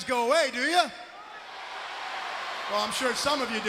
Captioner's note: crowd cheering